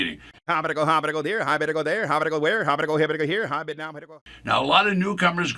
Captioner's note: auctioneer vocalizes rapidly